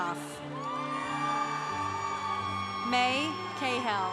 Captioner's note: congregation cheering